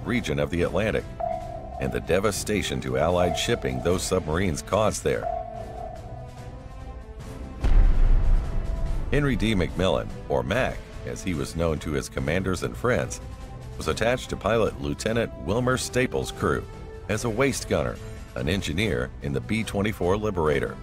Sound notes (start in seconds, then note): 7.6 bomb explosion